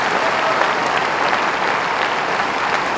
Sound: applause

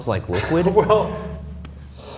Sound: laughs

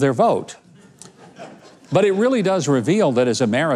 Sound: audience laughing

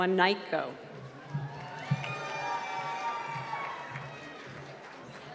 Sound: cheering and applause

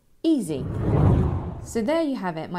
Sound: air swooshing

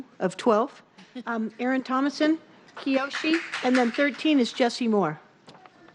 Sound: applause

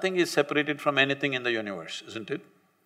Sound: none

